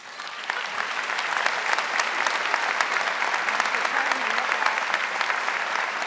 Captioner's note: audience applauding